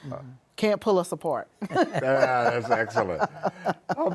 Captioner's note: laughter